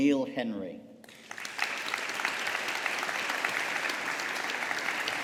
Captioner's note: audience applauding